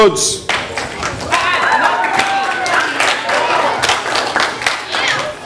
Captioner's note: audience applause